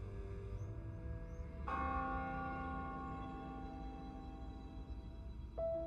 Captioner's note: church bell ringing; mystical piano music